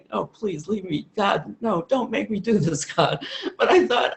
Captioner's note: laughs